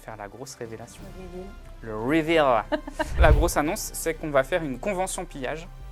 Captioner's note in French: rires